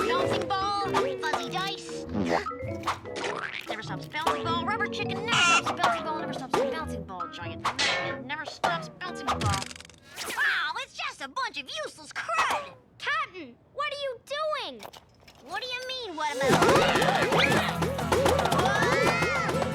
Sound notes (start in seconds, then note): 16.4 both yell